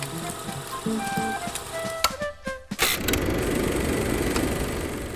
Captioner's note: projector clicking; upbeat music